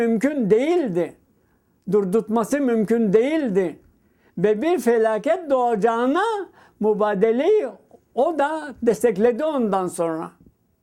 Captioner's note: speaking in Turkish